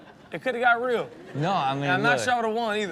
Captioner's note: audience laughs